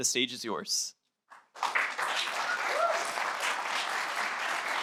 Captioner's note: applause